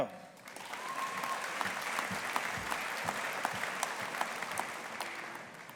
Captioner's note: audience applauding